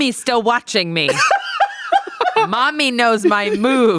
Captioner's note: everyone laughs